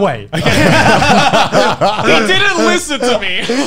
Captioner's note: laughing